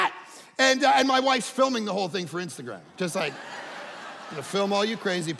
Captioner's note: audience laughing